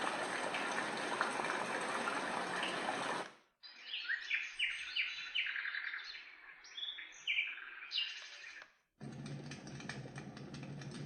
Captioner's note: nature sounds